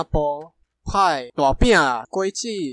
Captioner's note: in Tâigí Taiwanese